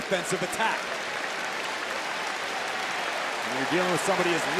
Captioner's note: fans clapping